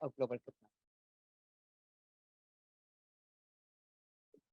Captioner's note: audio cuts out